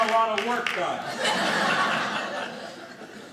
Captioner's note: audience laughing